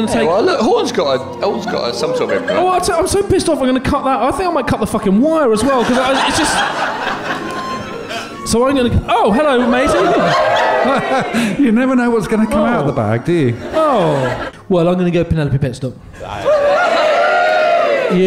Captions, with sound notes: There you are – look, Horne's got some sort of implement. Well, I'll tell you... I'm so pissed off I'm going to cut that... I think I might cut the fucking wire as well, because it's just... So I'm going to... Oh, hello, matey. [CHUCKLING] You never know what's going to come out of a bag, do you? Oh. Well, I'm going to go Penelope Pitstop.